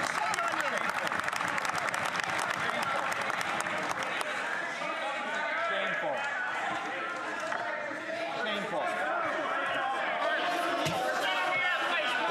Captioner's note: some Applause